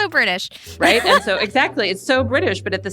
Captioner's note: laughs